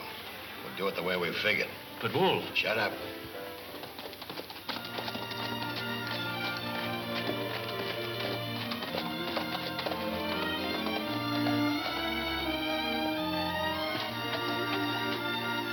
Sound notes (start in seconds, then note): 2.8 gentle music; 2.8 horses trot